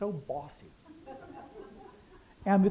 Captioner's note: laughter